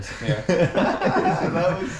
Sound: laughing

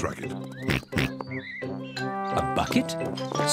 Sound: oinks

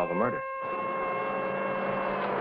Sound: siren blaring

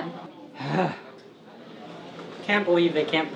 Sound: Jim sighs

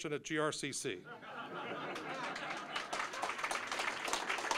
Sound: audience laughing; applause

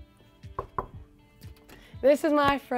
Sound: hand knocks

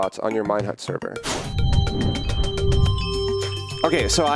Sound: whoosh and jingle noise

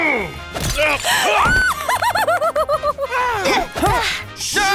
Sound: giggles

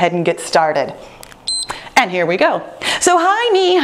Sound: timer beeps

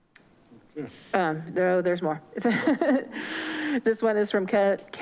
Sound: laughs

